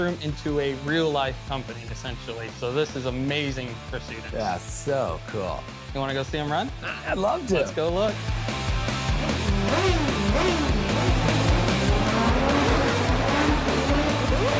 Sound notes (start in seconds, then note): 7.6 car revving; 8.6 energetic music